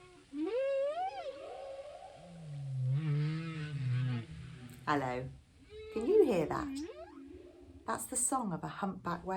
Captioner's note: whale song